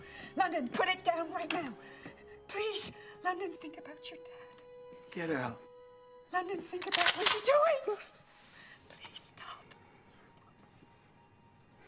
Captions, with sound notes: London, put it down right now. Please, London, think about your dad. Get out. London, think about what you're doing. [gun cocks] Please, stop, stop.